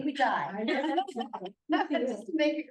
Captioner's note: laughs